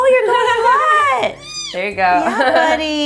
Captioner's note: cat meowing